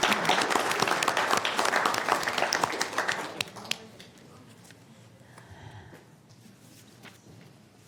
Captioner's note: applause